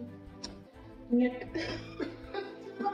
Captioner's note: laught